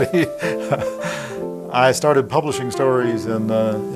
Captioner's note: laughing